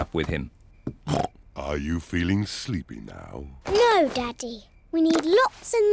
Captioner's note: snorts